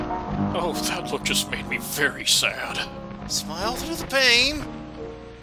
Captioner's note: wincing